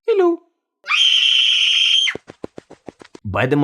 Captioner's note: screams like a girl